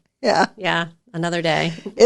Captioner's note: laughs